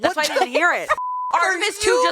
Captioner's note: beep